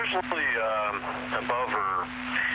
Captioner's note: static